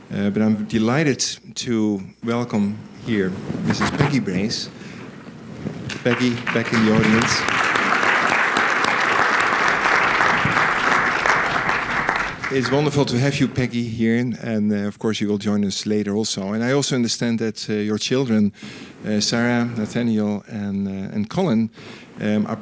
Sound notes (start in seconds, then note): 5.8 applause